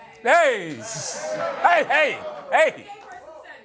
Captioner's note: audience objects